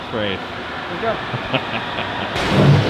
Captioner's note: laughs maniacally